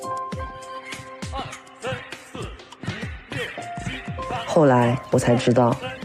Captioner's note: sample 4: The sound of radio calisthenics